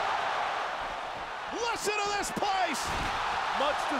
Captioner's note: applause